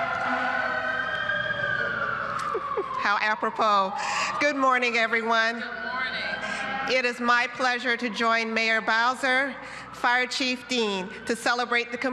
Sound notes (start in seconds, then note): 0.0 cheers and applause; 3.0 sirens